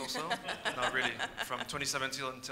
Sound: audience laughs

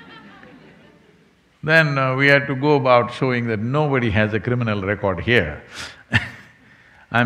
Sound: laughs

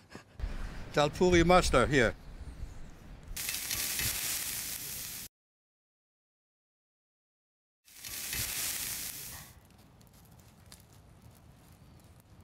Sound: sizzling

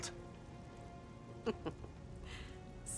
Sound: laugh

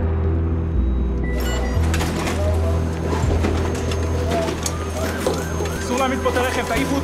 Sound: hospital bustling; siren blaring

